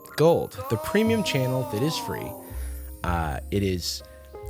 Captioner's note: disembodied voice